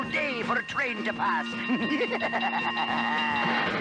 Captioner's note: evil laugh